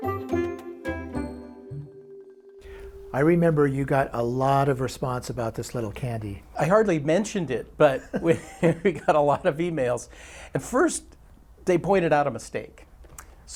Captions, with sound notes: (playful music) - I remember you got a lot of response about this little candy. - I hardly mentioned it, but (chuckles) we got a lot of emails. And first they pointed out a mistake.